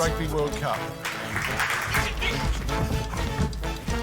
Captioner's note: applause